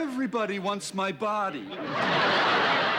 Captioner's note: laughter